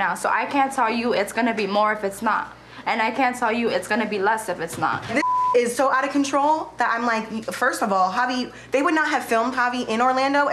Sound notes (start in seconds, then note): 5.2 beep